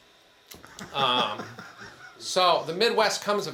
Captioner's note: attendee chuckles